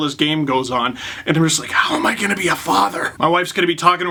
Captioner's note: whispered